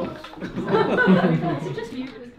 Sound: people laugh

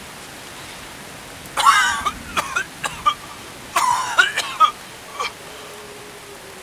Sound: unbridled coughing

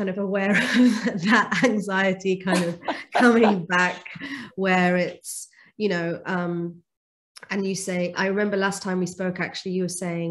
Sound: laughing

